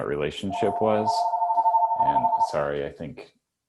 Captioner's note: phone rings